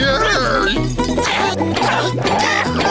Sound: groaning

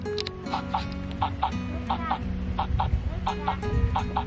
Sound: heart beating

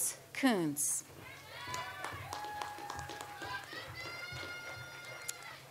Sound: audience applauds

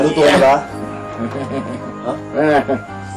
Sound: dad cooing at baby

